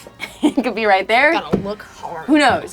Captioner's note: laughs